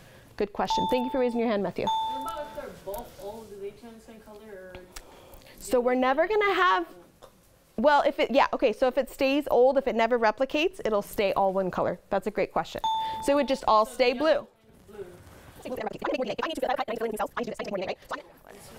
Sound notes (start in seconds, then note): 1.8 ding; 12.8 ding